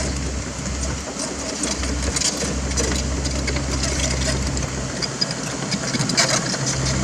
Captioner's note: track crunch